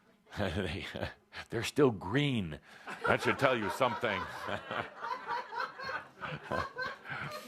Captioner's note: laughter